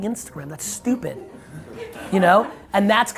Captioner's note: audience laughs